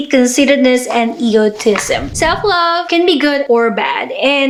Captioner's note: whoosh